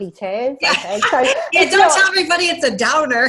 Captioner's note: laughs